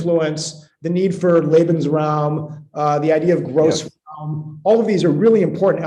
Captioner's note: speaking german